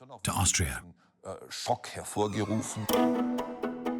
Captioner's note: speaks in foreign language; dramatic classical music